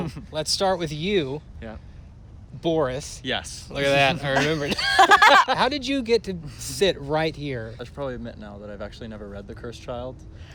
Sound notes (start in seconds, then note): 4.0 laughter